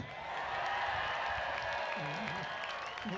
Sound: cheering

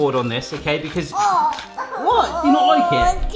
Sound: coughs disgustedly

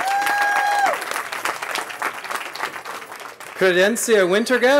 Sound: cheering

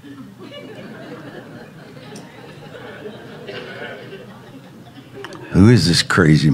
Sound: congregation laughing

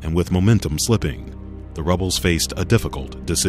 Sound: voiceover

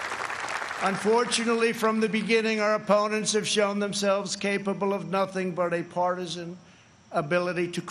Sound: applause

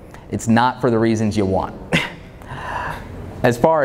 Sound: chuckles

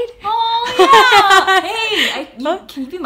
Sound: laughs

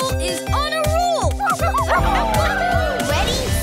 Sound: barking

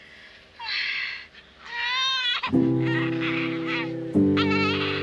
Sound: crying

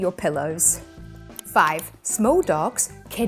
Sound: graphics clicking

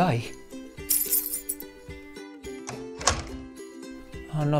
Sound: keys clinking & closing door sound

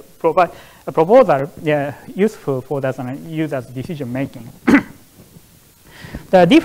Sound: coughs

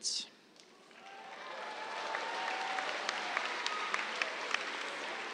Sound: cheers, applause

